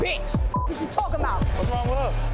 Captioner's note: beep